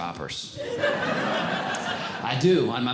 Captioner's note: audience Laughing